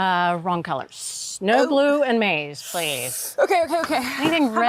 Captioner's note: hisses